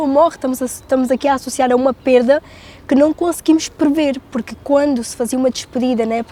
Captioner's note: speaking in Portuguese continues